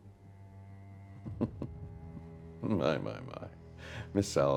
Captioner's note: chuckles